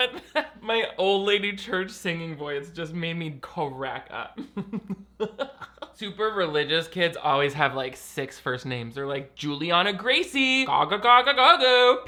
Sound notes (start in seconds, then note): 4.4 laughs